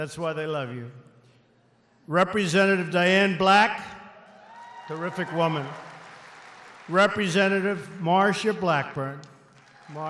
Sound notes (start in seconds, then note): 6.0 applause